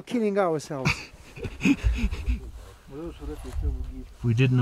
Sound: laughs

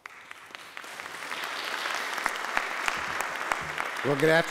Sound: applauding

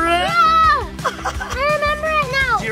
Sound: dad laughs

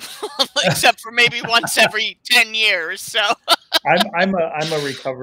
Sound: laughs

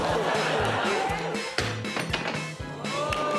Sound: audience exclaim

